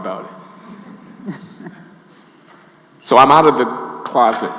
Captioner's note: audience laughing